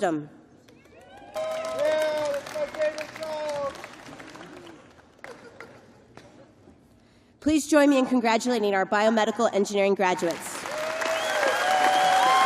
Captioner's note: cheers and applause